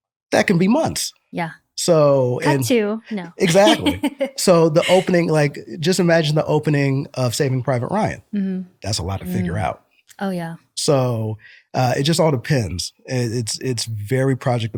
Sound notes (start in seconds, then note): 3.2 laughter